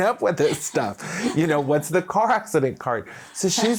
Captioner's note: laughing